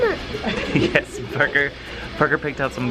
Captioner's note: laughs